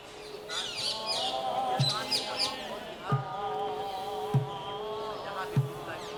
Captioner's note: chanting; drums beating